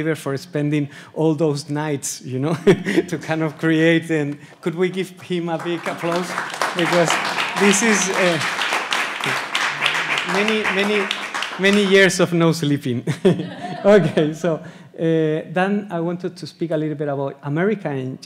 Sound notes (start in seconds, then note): 2.6 laughs; 5.3 audience applauds; 13.1 audience laughs; 13.1 laughs